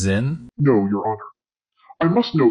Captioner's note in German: verzerrt